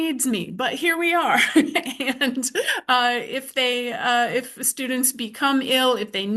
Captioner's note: chuckles